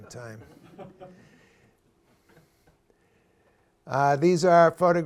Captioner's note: laughter